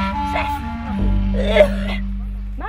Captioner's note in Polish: kaszel